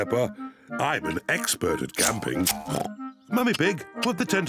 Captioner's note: oinks